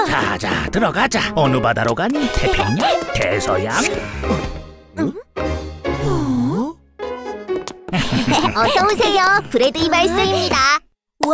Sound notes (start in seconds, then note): 4.4 both grunt in awe